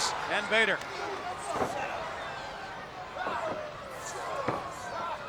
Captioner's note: crowd yelling